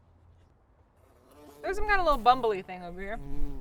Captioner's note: buzzing